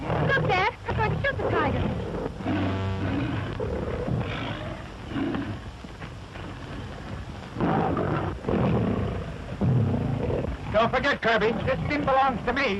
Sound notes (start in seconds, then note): 7.5 roars